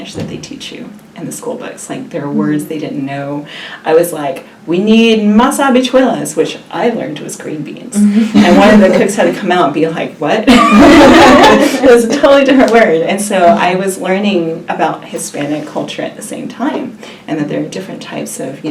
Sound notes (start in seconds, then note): 8.0 laugh; 10.5 laughs